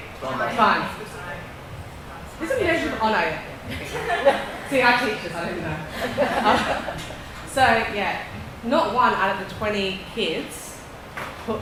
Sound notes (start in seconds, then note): 3.6 laughing